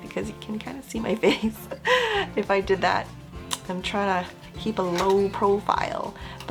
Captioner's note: awkward laugh